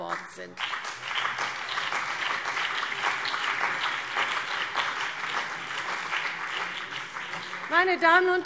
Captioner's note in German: Beifall CDU und BÜNDNIS 90/DIE GRÜNEN